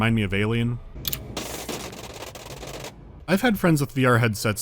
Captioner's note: shuddering sound, reminiscent of "Alien"